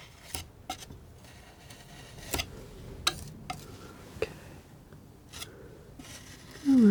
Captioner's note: sculpture sounds